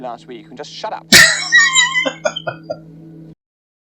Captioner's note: laughing